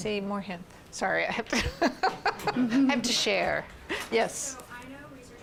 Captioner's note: laughing